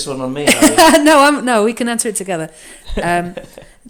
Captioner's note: laughs; chuckles